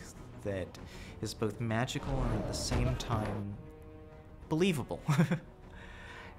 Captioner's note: laughs